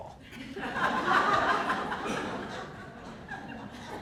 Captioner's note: audience laughing